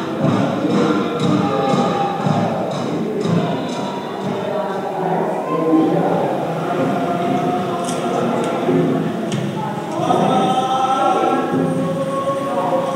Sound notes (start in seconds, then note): 6.9 ceremony continues: single male voice; 10.2 single male voice sings slowly and solemnly